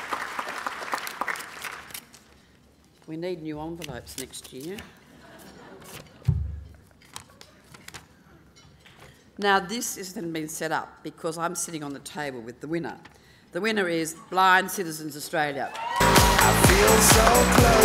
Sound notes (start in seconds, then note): 5.6 laughing; 15.7 applause